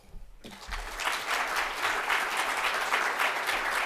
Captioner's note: applause